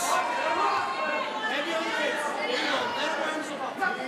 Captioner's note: crowd cheering